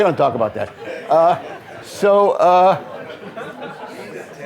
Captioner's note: audience laughing